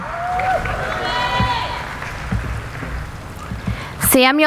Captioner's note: applauding